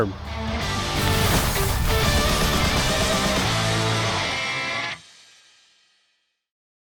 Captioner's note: upbeat rock music ending; letters fizzing